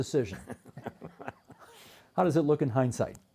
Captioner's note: chuckling